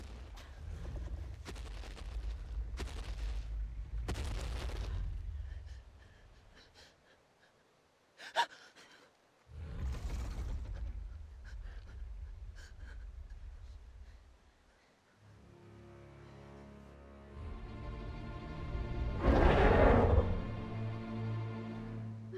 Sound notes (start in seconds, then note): 0.1 dinosaur growl; 7.2 gasping; 9.2 dinosaur growl; 19.0 dinosaur roar